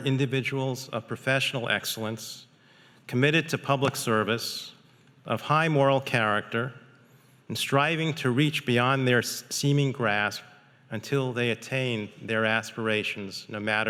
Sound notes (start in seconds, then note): none